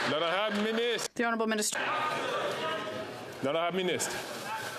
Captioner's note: some Applause